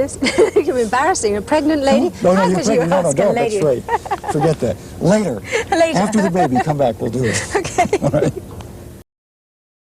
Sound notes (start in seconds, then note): 7.0 laughter